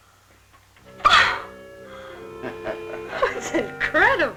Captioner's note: laughing